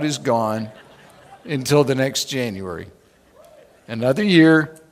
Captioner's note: laughing